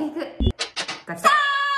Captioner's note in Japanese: 何かが開く音